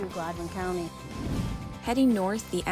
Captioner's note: swoosh sound effect